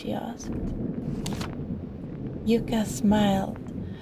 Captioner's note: page turn